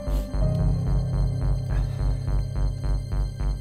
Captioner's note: Sighs